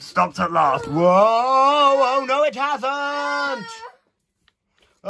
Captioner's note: Siobhán Teddy yells